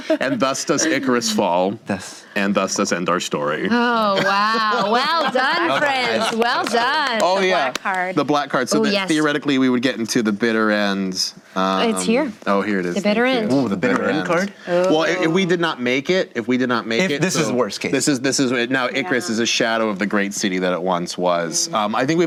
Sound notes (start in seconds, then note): 6.2 clapping